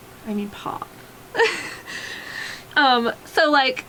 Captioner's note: laughs